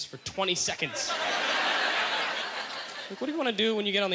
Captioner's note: audience laughter